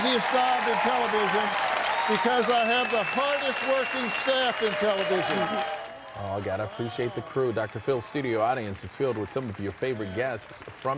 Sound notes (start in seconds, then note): 3.7 applause